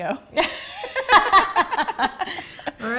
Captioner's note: laughing